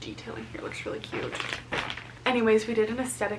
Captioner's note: package rustling